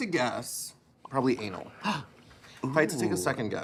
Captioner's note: gasps